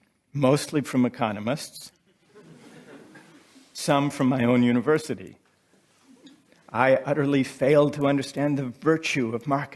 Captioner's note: laughter